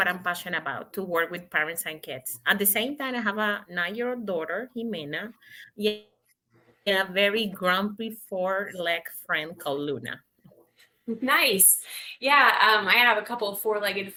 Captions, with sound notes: so this is what I'm passionate about, to work with parents and kids. At the same time, I have a 9-year-old daughter, Jimena, (audio skips) and a very grumpy four-leg friend called Luna.